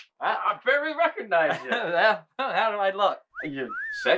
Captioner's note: whistling